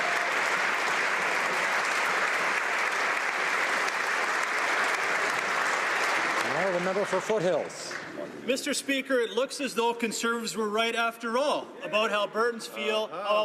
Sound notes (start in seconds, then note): 1.9 applause